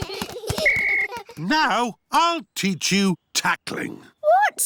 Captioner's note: blows whistle